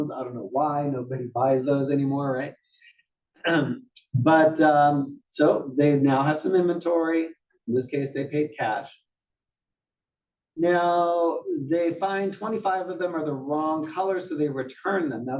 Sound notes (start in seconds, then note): 3.1 cough